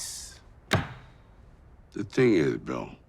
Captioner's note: Bill's hand thudding